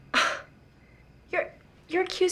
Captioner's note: scoffing